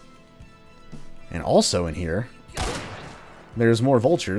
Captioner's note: crack